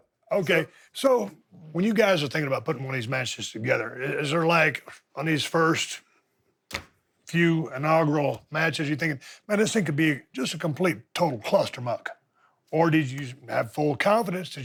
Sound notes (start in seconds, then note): none